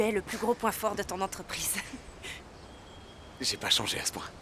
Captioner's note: laughing